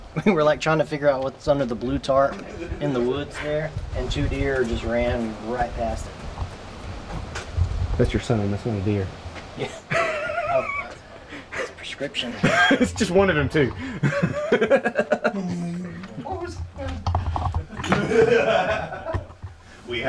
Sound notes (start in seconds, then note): 9.6 both laughing; 13.6 Josh laughing; 17.5 all laughing